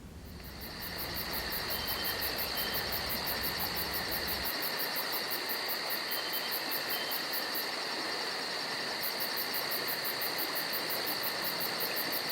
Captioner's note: forest sounds